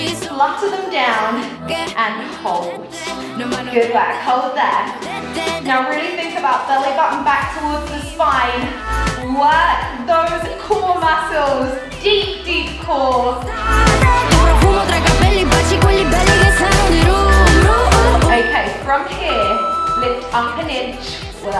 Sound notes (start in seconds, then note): 16.1 beeping